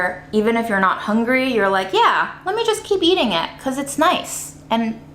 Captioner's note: none